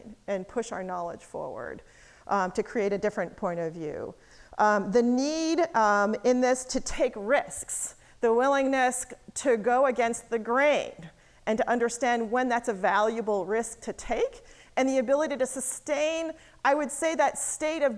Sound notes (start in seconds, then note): none